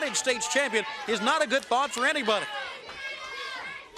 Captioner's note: crowd chatter